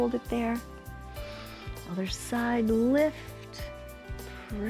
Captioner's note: inhales and exhales